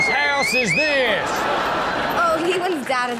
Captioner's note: audience laughs